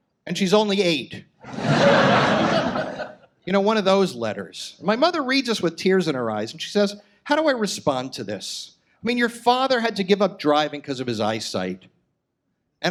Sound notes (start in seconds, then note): 1.4 audience laughs